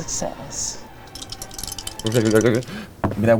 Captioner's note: dice clinking